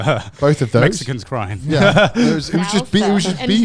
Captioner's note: laughing